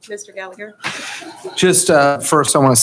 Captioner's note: chuckling